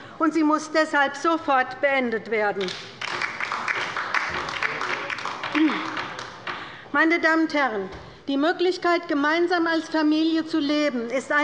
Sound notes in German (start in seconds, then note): 2.6 Beifall bei der LINKEN